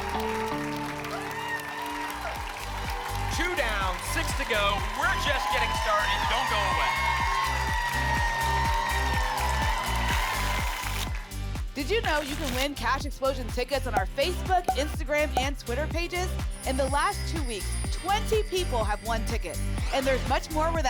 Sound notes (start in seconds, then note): 0.2 applause and cheering; 7.3 applause and cheering cont; 10.1 tickets shuffling